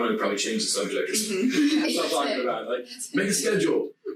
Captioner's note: group chattering